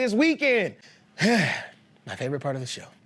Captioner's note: sighs